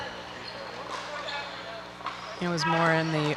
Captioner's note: people chattering